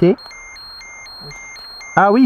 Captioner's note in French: alarme